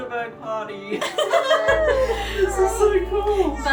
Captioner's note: laughs